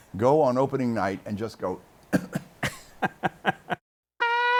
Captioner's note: cough; laughs